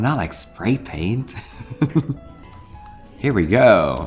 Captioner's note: laughs